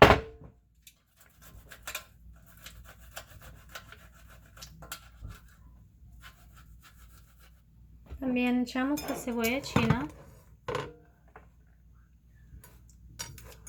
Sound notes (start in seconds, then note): 1.0 grating eggs